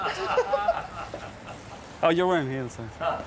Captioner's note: bride and photographer laughing